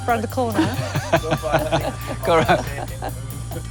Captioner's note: laughs